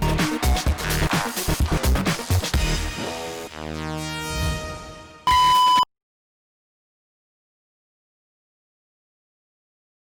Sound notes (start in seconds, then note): 0.0 upbeat electronic music; 5.2 TV beeps